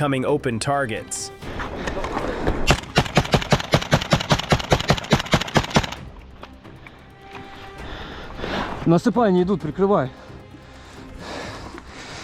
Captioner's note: panting